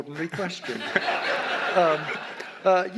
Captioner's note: audience laughs